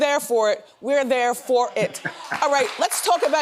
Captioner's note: Boris laughing